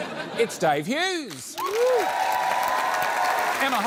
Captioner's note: applause